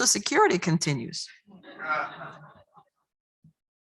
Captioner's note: laughter